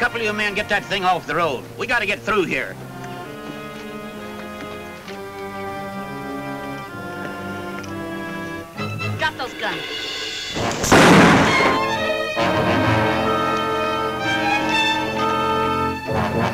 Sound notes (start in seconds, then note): 3.6 tense music; 10.5 gun bangs; 12.3 tense music